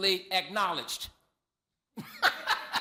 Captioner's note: laughter